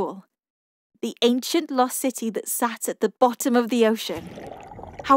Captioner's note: underwater sounds